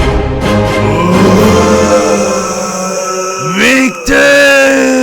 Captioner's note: Victor's scream of death